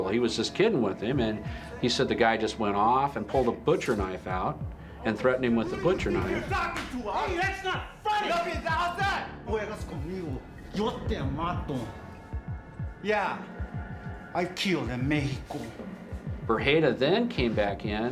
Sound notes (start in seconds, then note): 9.0 speaking spanish